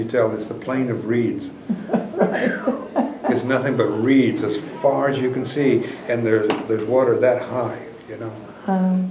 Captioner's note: laughter